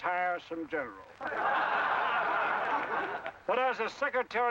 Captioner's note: cadets laugh